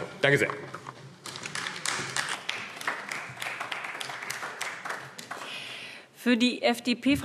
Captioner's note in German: Beifall AfD